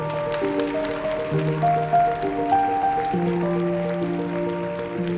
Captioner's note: audience applauding